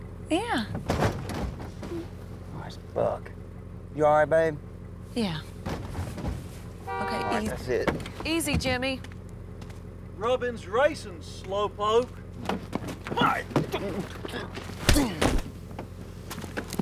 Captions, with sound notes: - I'm all right. - You wanted daycare, ain't you happy? - Yeah. (car nudging from behind) - Aw, it's Buck. Are you all right, babe? - Yeah. (car beeping) - All right, that's it. - Easy, Jimmie. - Rubbin's racin' slow poke.